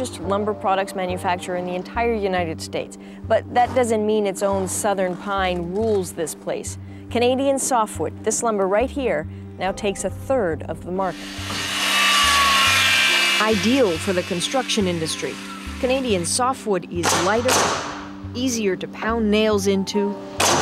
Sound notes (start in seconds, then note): 11.0 saw buzzing